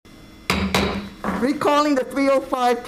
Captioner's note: gavel taps